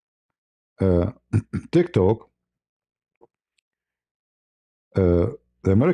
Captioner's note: berdehem